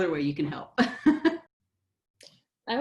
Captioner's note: laughs